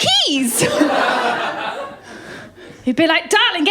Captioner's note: laughter